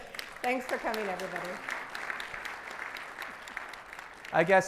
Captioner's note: audience applauds